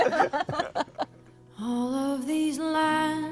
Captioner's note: laughter